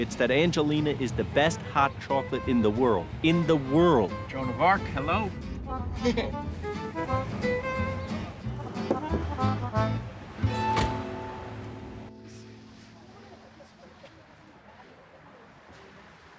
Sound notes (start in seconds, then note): 5.9 laughs